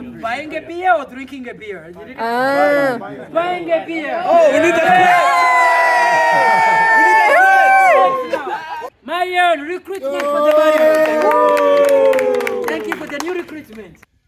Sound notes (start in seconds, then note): 4.3 cheering; 10.0 applause